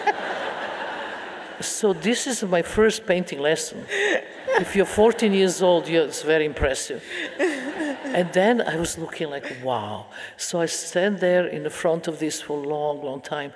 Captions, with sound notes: (audience laughing) So this is my first painting lesson. If you're 14 years old, yes, very impressive. And then I was looking like, wow. So I stand there in the front of this for a long, long time.